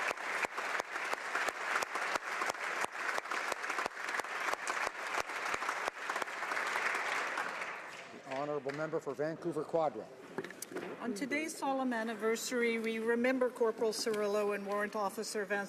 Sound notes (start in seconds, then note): 1.9 applause